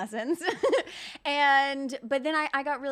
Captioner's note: laughing